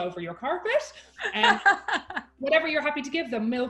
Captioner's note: laughing